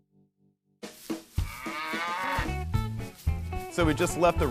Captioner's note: cow mooing